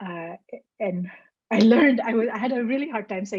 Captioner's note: chuckles